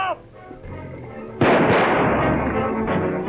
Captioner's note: guns fire; suspenseful music